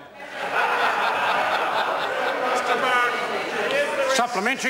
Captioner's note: members laugh